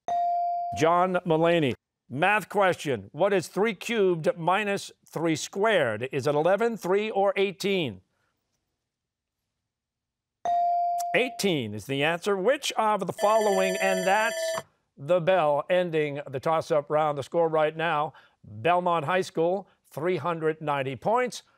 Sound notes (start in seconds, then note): 13.1 bell ringing